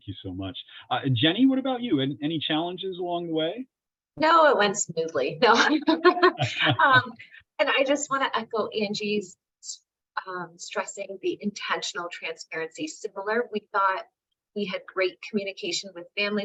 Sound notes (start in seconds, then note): 4.8 sarcastically; 5.5 laughing